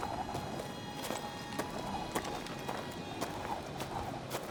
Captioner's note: wind howling